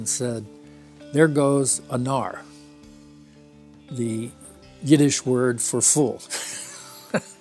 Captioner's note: laughs